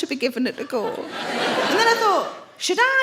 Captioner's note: audience laughs